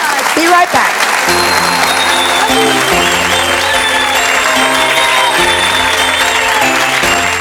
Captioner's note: audience cheering; holiday music